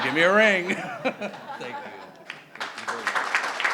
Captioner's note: crowd and laughing; crowd clapping